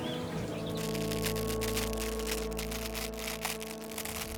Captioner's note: velcro unfastening